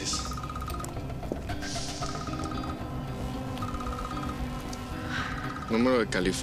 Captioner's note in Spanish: Celular continúa sonando